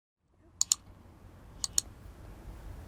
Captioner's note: clicking